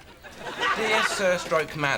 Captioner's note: audience laughing